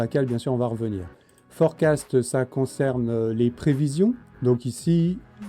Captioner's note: in french